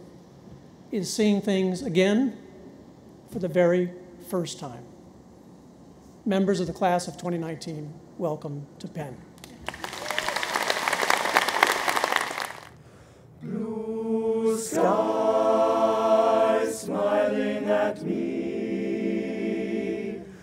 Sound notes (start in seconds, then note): 9.4 audience applauds